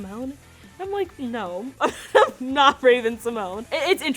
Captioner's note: laughs